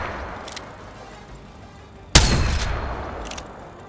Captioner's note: sound of shooting